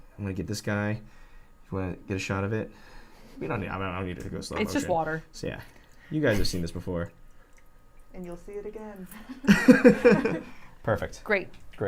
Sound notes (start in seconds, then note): 9.2 laughter